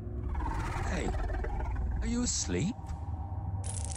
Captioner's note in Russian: сердитое рычание